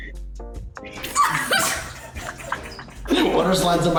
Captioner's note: all but laugh